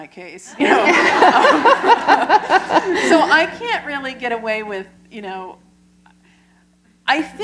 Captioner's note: laughter